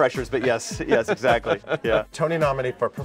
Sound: laughing

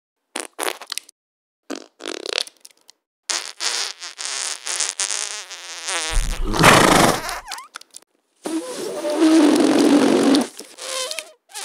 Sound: poop sounds

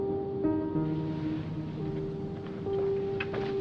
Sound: shifting around in bed

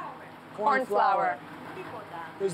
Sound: speaking Greek; speaking Greek

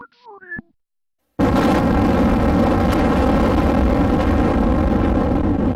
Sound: explosion

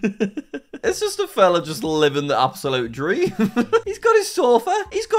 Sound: laughs; laughs

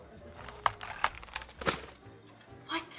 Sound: tree creaking

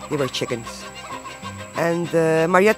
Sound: chickens clucking

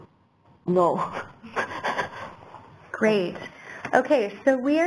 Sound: laugh

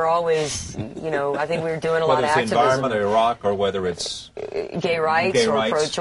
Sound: laughs

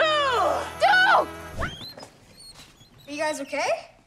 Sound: wagon creaking

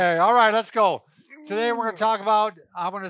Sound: grunts

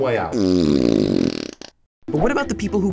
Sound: flatulence erupts

